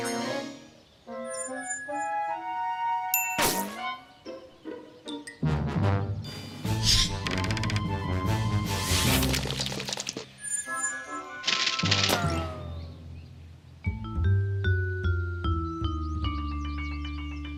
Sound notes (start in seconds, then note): 3.0 whizzing; 6.5 whooshing; 11.3 whizzing